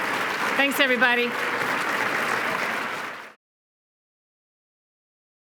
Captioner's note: applause